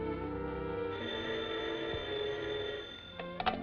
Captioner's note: phone rings